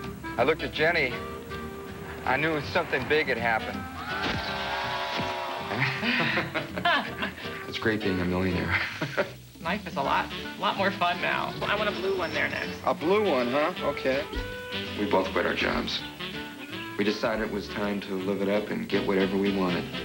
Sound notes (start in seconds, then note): 3.9 flashbulbs and cheers; 5.4 both laugh nervously; 8.9 chuckles